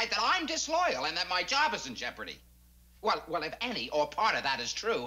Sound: none

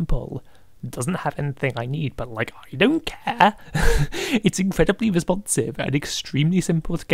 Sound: laughs

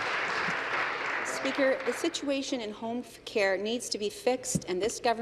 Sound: applause

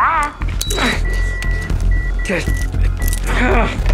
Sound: grunting

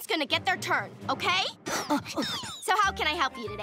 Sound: panting

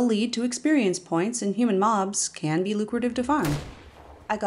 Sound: gunshot

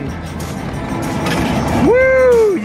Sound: coins jingling; cheering

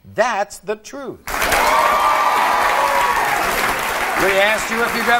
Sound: audience applauding

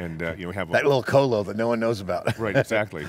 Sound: laughs

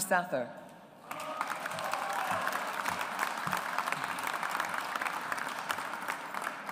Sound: audience applauds

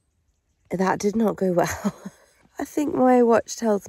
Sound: laughs

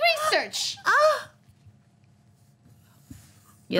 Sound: gasps

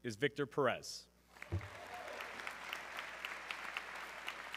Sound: audience clapping

